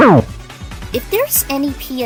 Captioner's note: Super Mario World sound